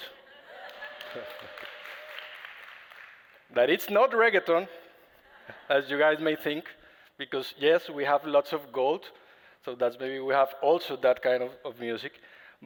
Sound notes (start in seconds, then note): 0.1 laughter; 2.1 applause